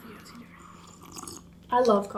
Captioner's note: sips coffee